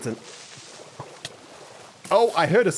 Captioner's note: sizzling sound